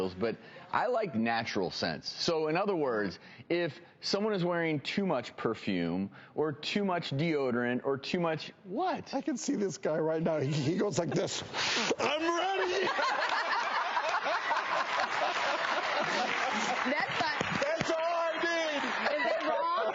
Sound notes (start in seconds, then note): 11.5 sniffs deeply; 11.8 all laugh